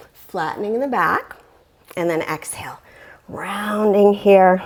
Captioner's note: deep breathing sounds